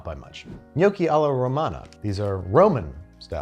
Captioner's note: air whooshes